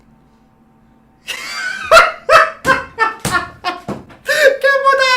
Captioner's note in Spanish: Súper carcajada Over Budget